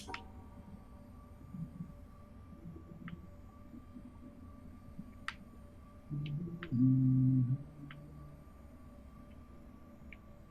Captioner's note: humming